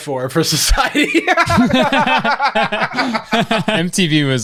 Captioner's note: pair laughs